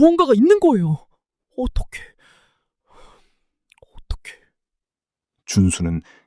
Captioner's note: gasp; sigh